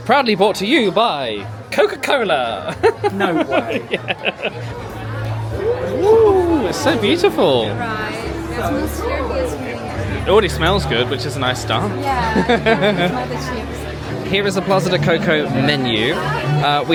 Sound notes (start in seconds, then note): 2.6 laughs; 13.4 chuckles